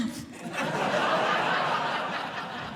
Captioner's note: audience Laughing